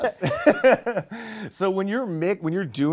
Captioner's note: laughter